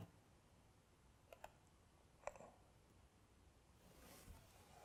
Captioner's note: mouse clicking